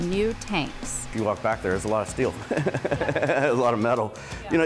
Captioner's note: laughing